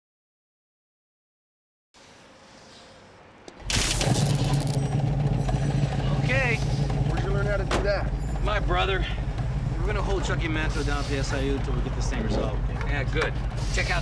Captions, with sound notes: (electricity zapping, engine rumbling) - Okay. - Where'd you learn how to do that? - My brother. - We're gonna hold Chucky Manto down at the SIU until we get this thing resolved, okay?